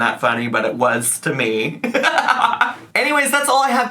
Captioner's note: laughs